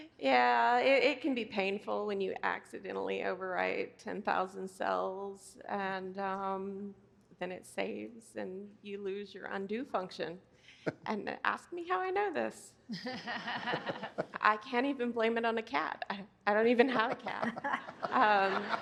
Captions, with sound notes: Yeah, it can be painful when you accidentally overwrite 10,000 cells and then it saves and you lose your undo function and ask me how I know this. (Laughter) I can't even blame it on a cat, I don't even have a cat. (Laughter)